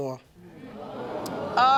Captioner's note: audience gasps